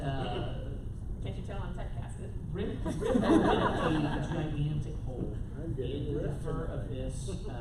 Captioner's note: laughter